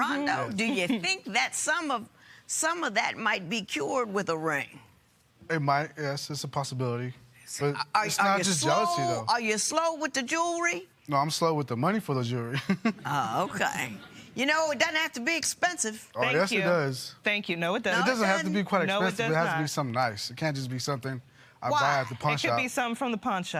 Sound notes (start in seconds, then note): 13.5 light laughter